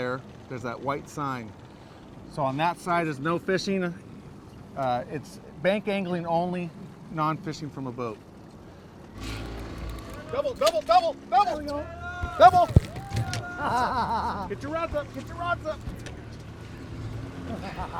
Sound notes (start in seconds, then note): 9.5 boat enging running; 13.3 chuckling